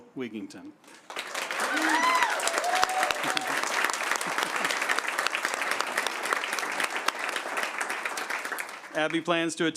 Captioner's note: applause